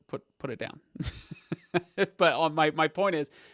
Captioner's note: laughs